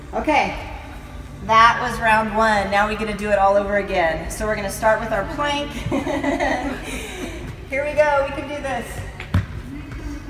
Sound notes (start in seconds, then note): 5.7 laughter